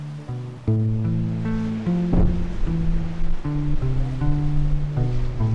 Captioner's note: loud bang